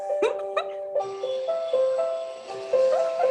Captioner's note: laughing